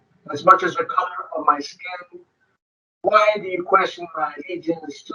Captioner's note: speaking distorted